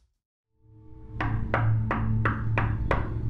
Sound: knocking on door

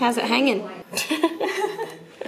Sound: laughs

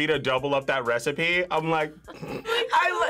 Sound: snorts

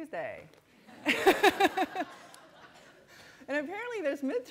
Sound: laughter

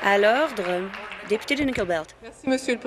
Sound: applause

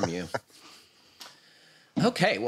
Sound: laughs

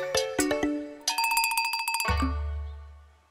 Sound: bell ringing

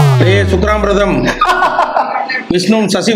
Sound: laughs

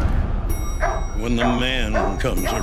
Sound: ding; dog barks

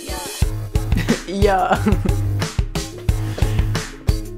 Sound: laughs

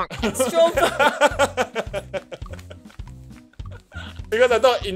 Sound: laughs

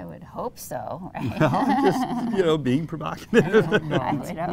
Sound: laughs

